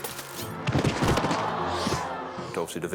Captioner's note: crowd moans